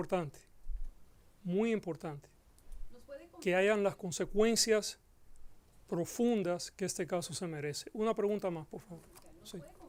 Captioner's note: Gascon speaking Spanish; reporter speaking Spanish